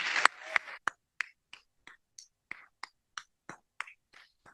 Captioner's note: applause